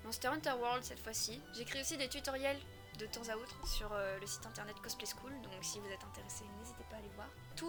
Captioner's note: in french